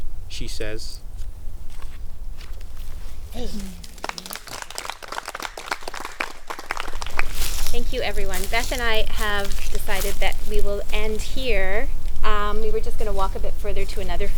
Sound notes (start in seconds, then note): 2.8 murmurs of approval; 3.5 applause; 10.8 laughs